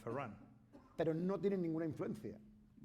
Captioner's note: speaking spanish